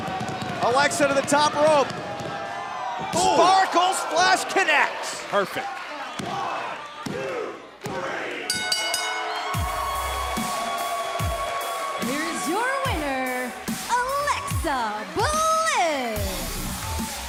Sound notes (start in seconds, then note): 8.5 bell; 11.2 cheers & applause